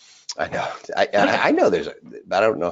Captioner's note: sighs